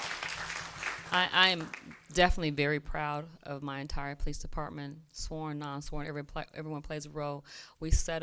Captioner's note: applause